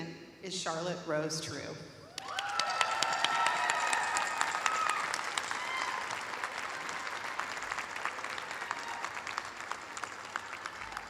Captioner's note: cheers and applause